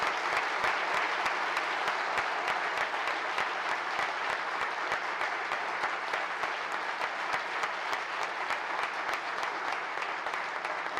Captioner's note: applause